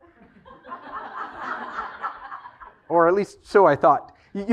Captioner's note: laugh